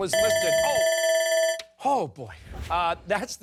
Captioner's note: timer